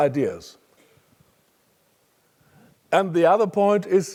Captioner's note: cough